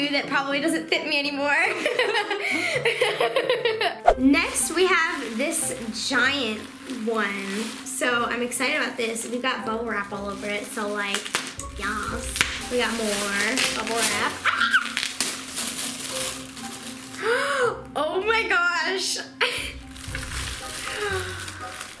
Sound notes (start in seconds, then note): 11.4 bubble wrap popping; 14.5 screams; 17.6 gasps